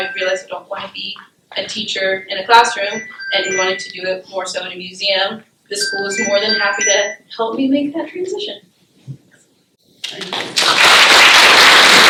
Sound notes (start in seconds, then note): 10.0 applause